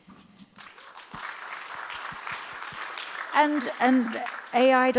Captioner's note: audience applauds